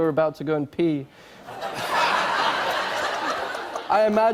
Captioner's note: laughter